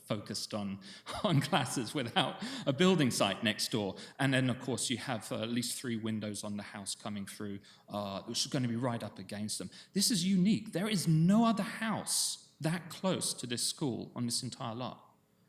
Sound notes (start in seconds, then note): 1.0 chuckles